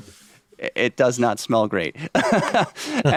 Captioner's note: chuckles